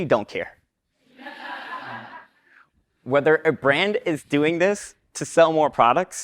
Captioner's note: laugh